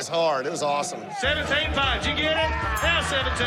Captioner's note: calling continues